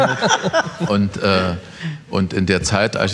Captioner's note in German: Lachen